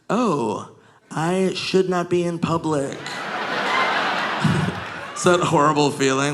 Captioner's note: audience laughing